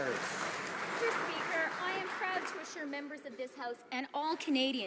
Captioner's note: some Applause